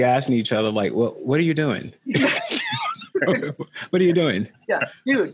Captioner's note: both laughing